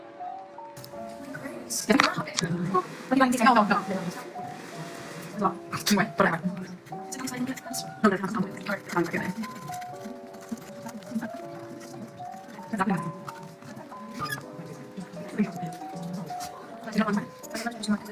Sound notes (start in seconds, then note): 2.1 acclerated chatting